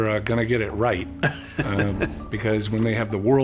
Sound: chuckles

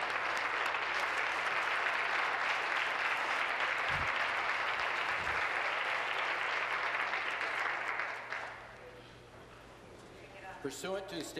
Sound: applause

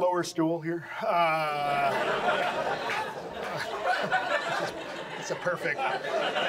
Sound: audience laughs

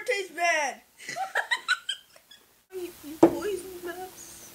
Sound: laughs

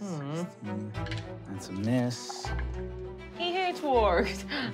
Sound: rolling dice

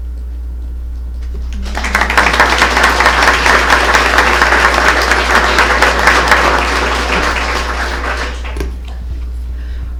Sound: applause

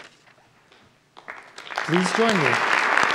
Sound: audience applauds

